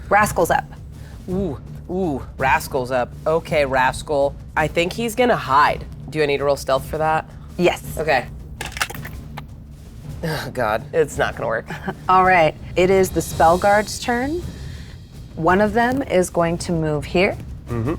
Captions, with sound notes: Rascal's up. - Ooh, ooh, Rascal's up. Okay, Rascal. I think he's going to hide. Do I need to roll Stealth for that? - Yes. - Okay. (dice rattling) Oh God, it's not going to work. - All right. It is the Spell Guard's turn. One of them is going to move here